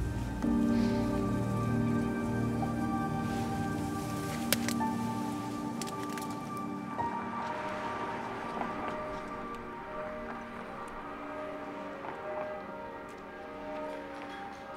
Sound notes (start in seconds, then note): 0.3 poignant music; 7.6 church bells chiming